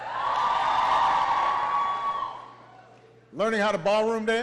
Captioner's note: applause